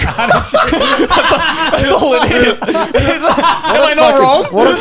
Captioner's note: all laughing